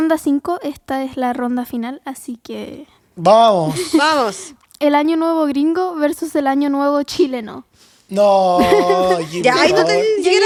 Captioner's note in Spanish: risas